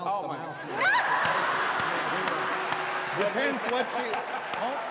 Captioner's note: laughter